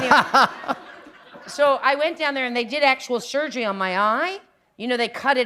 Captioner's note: laughter